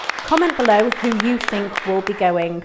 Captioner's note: group applauds